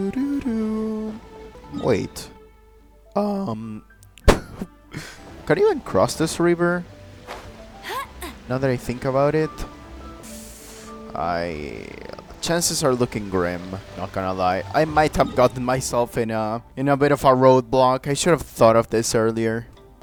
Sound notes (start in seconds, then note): 5.0 air burst from laughter; 10.1 nervously inhaling